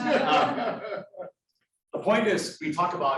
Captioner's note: students laughing